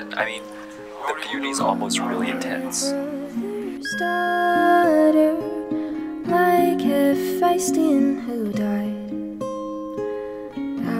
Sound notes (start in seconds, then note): 3.8 voicemail beeps